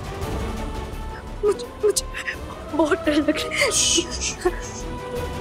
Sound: shushing

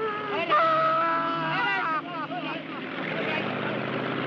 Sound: Mike yelling

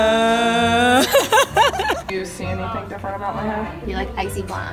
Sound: laughing

